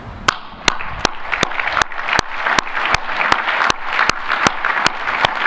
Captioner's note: applause